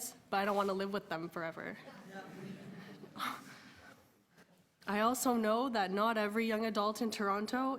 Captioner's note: laughter